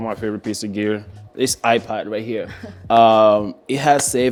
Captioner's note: laughs